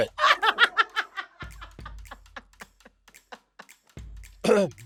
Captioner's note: London laughs